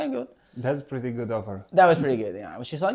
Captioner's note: laughs